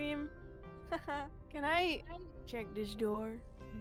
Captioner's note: laughs